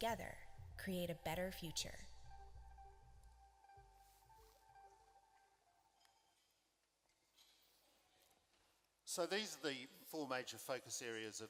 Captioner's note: video audio ends